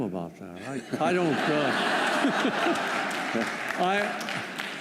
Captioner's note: laughter